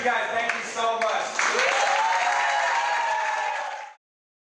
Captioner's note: cheering, applause